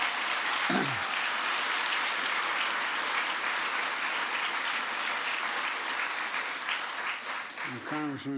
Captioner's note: applause